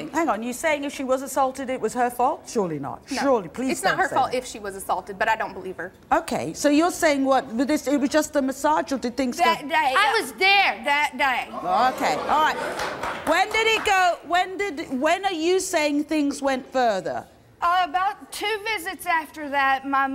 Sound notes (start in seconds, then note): 11.9 audience gasps; 12.4 audience claps